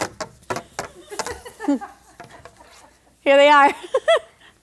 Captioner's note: laughing